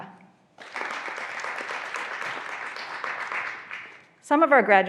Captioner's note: graduands applauding